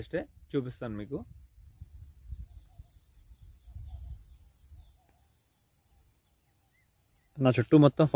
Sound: birds chirping

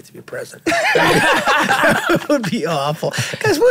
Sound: all laughing

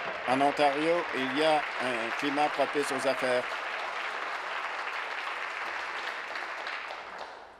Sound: applause

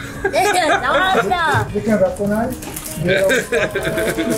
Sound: laughs

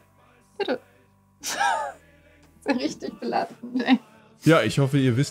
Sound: laughs

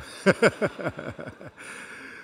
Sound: laughter

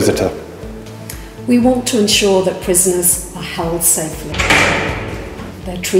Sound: unlocking sounds

